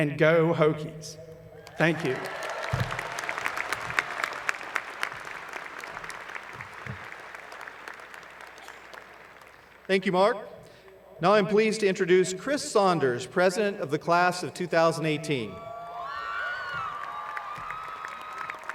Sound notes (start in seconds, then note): 10.3 applause